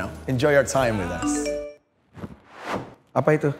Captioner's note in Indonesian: suara handphone berdering